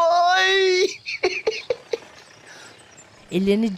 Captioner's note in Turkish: Gülme sesi